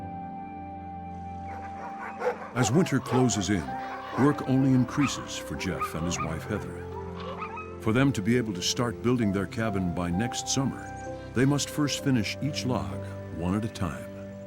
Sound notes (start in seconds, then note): 1.4 dogs barking